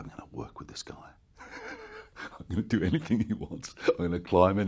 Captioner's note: giggles